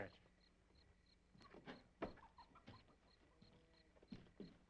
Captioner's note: insects chirping